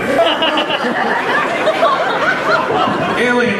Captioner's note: crowd Laughs